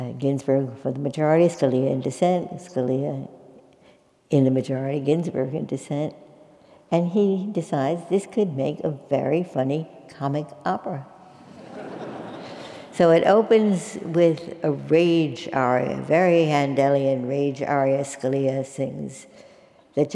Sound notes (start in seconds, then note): 11.4 laugh